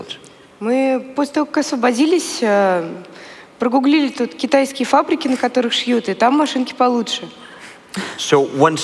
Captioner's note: foreign Language